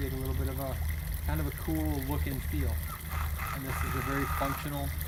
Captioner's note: bird caws